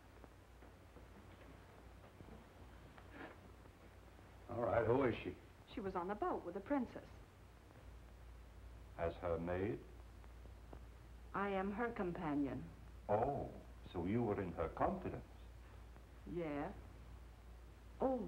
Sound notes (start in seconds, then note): none